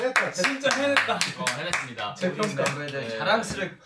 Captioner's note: A round of applause for themselves